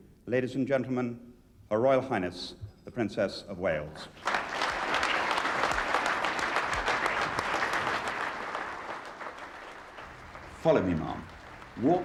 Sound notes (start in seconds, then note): 4.2 audience applauding